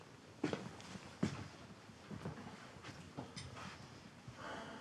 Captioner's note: footsteps thudding; Abe sighs